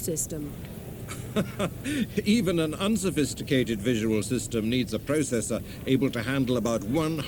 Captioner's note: laughs